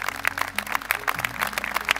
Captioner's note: applause